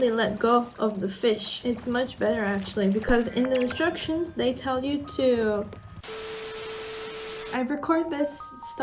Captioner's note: static noise